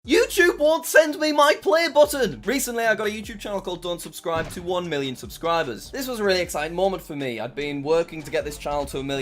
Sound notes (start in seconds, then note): 4.4 exploding